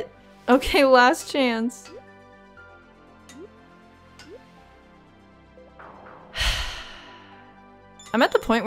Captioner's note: deep sigh